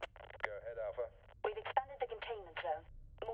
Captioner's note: radio